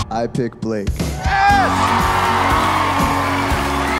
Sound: cheers and applause

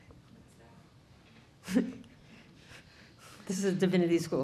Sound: audience Member, off mic

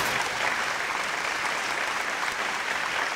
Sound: applause

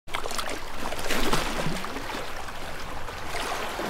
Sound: splashing water

